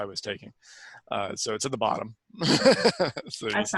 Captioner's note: laughs